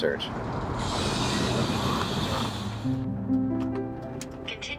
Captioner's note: vehiCle engine humming